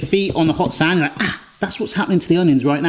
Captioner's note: gasps